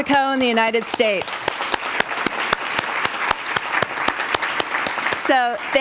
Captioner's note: audience applauding